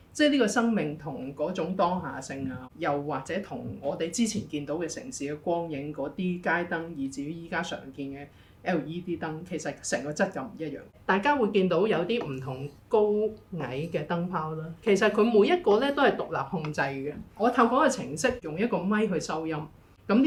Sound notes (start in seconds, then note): none